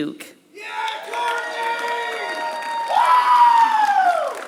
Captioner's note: applause